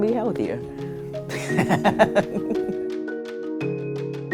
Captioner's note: laughs